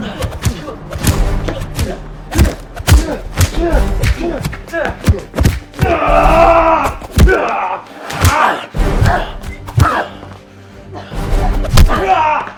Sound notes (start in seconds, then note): 3.4 both grunting